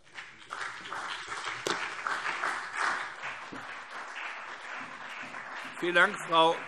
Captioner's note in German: Beifall BÜNDNIS 90/DIE GRÜNEN und CDU